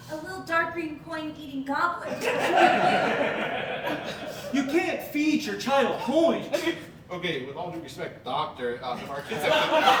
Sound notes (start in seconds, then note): 2.1 audience Laughing